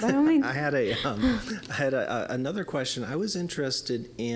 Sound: chuckling

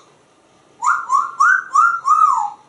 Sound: whistles

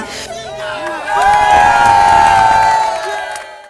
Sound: people cheering

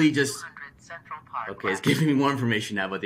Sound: computer Voice

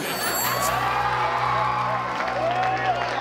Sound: <i>wild cheering and applause

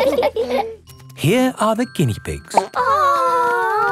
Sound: laughing; plop

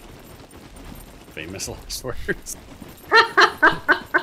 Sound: laughs

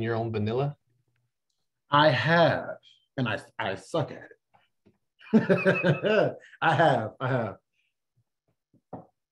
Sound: laughter

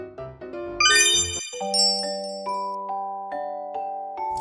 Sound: twinkling

